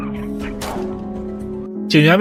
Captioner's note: gunshot